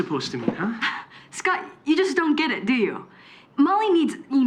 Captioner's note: scoffs